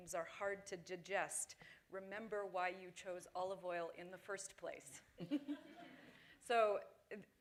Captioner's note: laughter